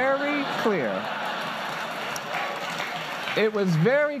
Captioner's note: laughter and applause